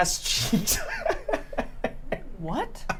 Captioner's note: laughs